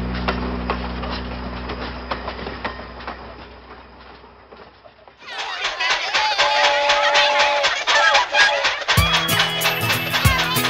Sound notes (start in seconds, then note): 0.2 train wheels clanking; 6.1 train whistle blowing; 8.1 train chugging